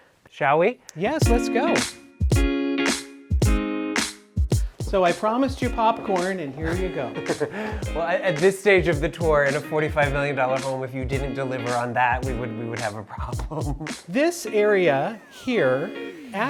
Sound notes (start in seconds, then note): 1.9 bright music; 6.6 laughs; 13.4 laughs